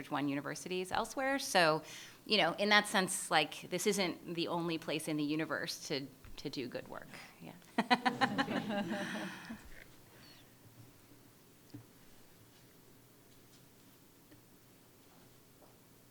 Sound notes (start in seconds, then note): 7.7 laughter; 7.8 laughing